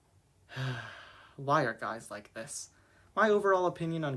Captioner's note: sigh